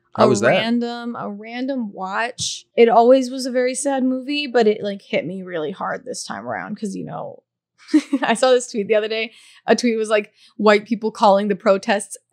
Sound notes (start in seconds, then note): 7.9 laughing